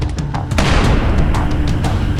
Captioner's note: single gun shot